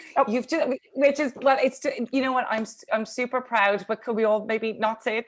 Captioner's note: stammers